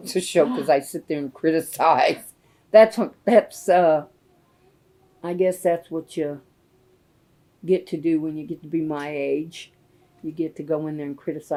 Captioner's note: laughs